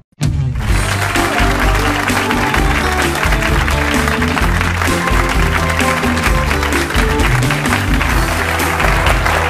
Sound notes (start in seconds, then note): 0.4 upbeat music; 3.0 audience cheers and applauds